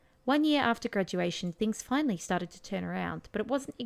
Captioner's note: reading text out loud